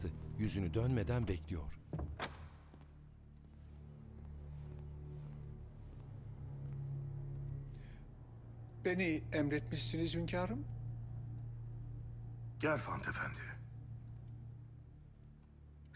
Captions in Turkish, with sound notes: (Kapı kapanma sesi) Beni emretmişsiniz hünkârım. Gerfand Efendi...